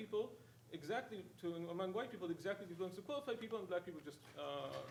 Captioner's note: speaking faintly